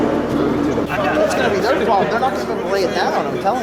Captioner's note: player Chatter